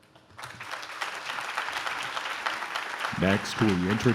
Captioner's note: audience claps